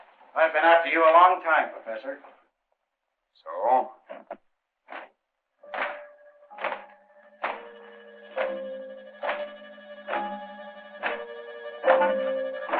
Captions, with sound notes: I've been after you a long time, Professor. So? [footsteps approaching] [suspenseful orchestral music]